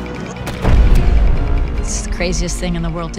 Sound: gunfire

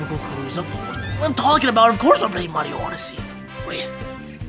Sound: stammers

